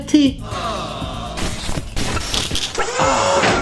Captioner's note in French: Bruit de mouvement robotique